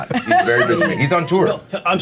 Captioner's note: laughing; Omin laughing